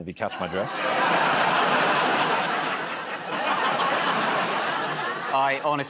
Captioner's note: laughter